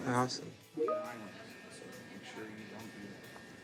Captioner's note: notification dings